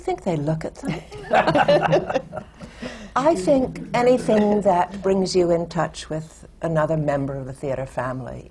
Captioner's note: laughter from the panel